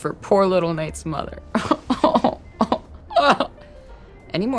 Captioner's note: pretends to cry